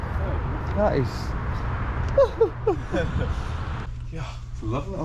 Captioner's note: fake cries